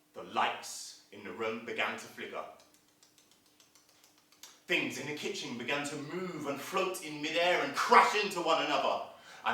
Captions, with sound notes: The lights in the room began to flicker [Sound of flickering] Things in the kitchen began to move and float in mid-air and crash into one another